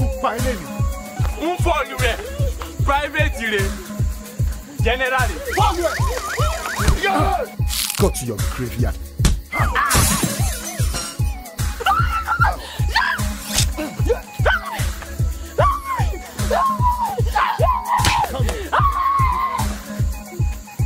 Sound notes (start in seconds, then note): 0.2 henchman speaking in foreign language; 11.8 Tife screaming; 13.4 knife slicing; 18.0 punch thudding